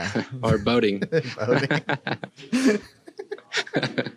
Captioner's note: laughs